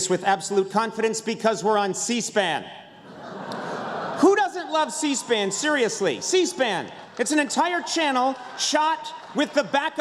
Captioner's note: laughter